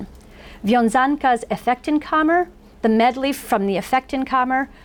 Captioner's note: foreign language